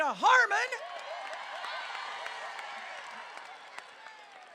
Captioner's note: crowd cheering